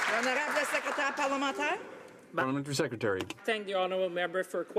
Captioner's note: some Applause